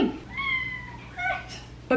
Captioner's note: Peach meows